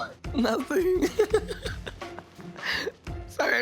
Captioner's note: laughs